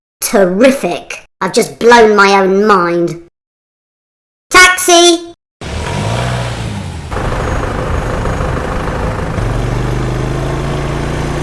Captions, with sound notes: “Terrific! I've just blown my own mind” “Taxi!” [Sound of Taxi engine] [Sound of Taxi driving away]